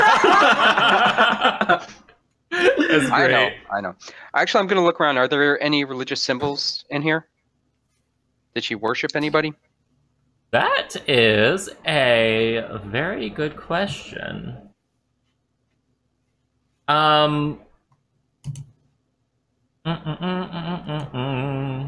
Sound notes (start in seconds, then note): 0.0 laughter